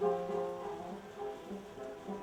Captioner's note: none